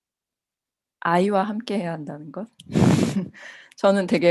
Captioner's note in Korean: 웃음